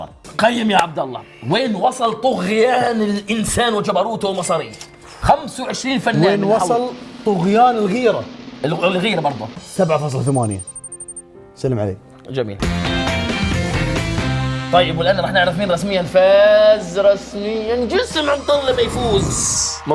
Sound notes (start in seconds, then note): none